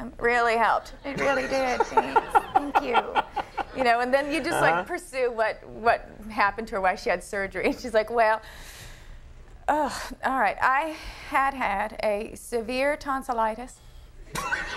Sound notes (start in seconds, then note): 8.7 Lisa inhaling; 14.3 crowd laughing